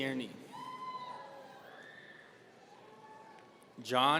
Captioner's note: audience cheering